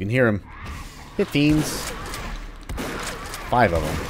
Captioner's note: shotgun blasting